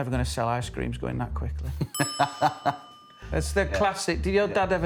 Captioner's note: laughter